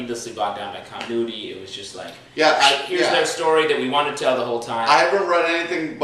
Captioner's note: zip sound